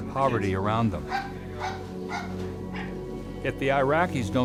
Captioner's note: dog barking